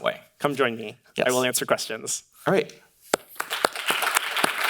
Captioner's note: claps; audience applauding